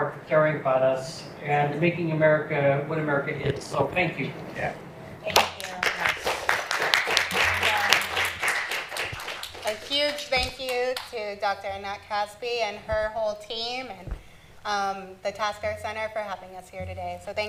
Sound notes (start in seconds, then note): 5.3 applause